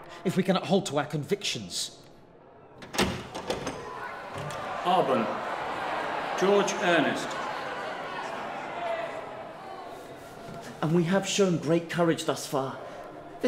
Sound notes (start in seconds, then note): 2.7 door opening